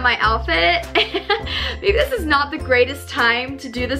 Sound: laughs

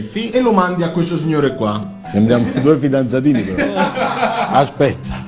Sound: laughs

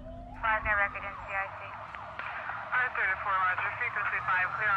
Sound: police radio chatter

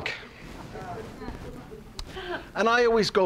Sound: audience laughs

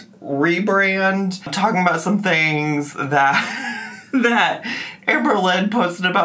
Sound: laughs

